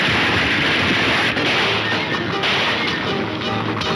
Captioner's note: gunshots banging